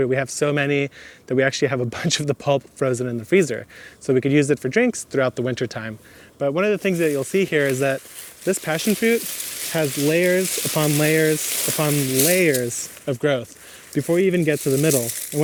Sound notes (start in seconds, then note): 9.5 foliage rustles